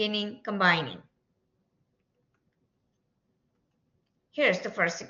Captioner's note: silence